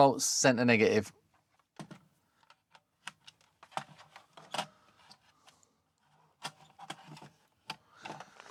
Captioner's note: silence